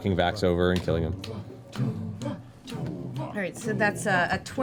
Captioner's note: chanting